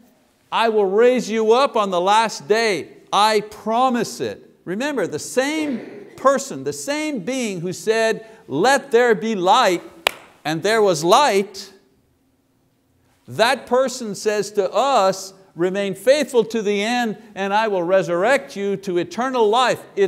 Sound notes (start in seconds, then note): 10.0 claps